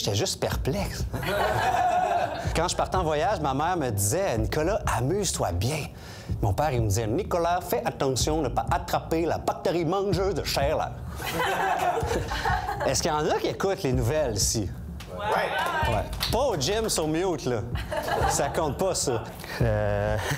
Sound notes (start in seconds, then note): 1.2 laughs; 11.2 laughs